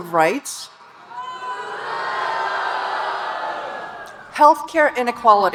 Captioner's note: audience booing